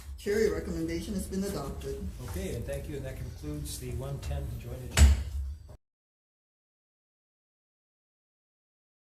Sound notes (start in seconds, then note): 4.9 gavel bangs